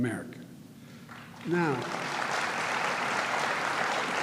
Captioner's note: applause